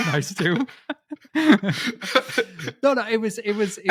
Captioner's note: both laughing